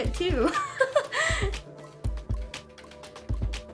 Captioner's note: laughs; light music